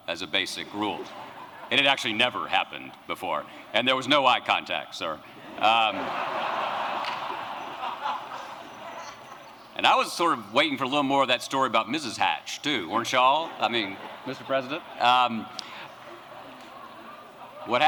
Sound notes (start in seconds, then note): 5.4 laughter